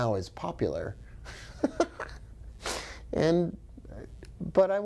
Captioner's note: laughs